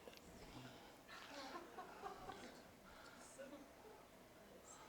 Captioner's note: audience: Laughter